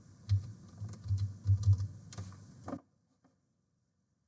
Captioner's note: mouse clicking